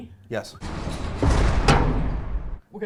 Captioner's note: heavy grinding